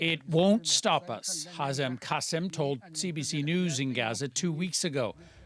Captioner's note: speaking alternate language